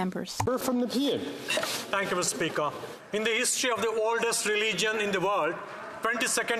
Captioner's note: speaking French